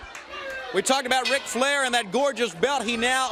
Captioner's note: crowd chatter